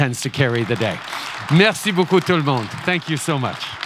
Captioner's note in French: Applaudissements